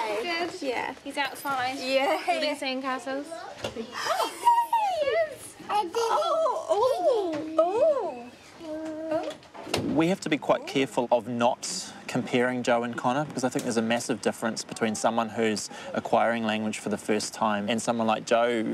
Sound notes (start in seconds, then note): 4.0 gasps